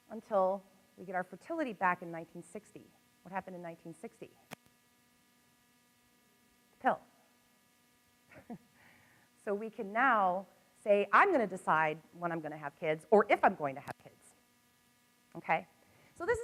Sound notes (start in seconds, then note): 8.2 laughs